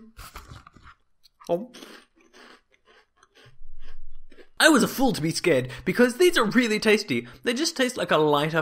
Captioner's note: eating Noises